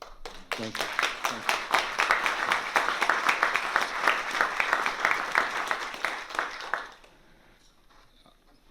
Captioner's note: applause